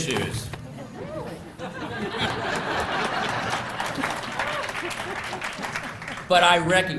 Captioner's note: laughter